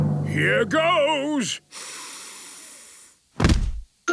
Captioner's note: dramatic drumming music; sniffs